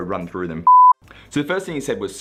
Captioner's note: beep